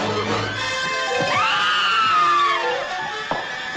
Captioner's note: screaming